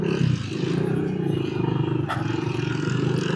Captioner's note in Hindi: कराहने की आवाज़